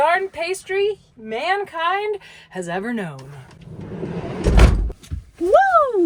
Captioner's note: door clatters